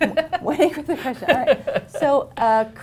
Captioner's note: laughter